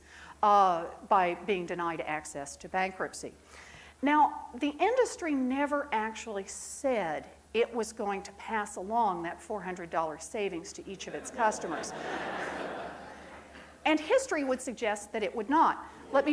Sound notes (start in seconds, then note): 11.1 crowd laughing